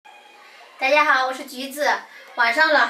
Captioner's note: Mandarin